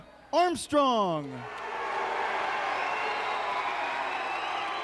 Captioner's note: fans cheering